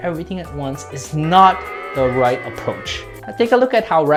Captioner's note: booing